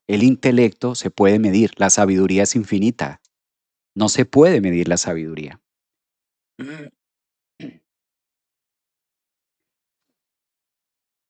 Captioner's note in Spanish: carraspeo